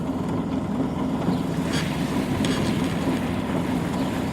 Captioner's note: construction noise; water running